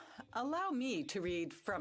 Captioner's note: speaking French